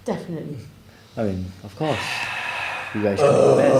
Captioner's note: sigh